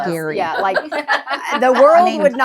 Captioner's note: laughing